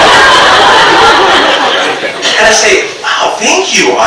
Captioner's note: audience laughs